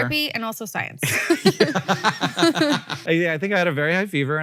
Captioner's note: Rachel and Hank laugh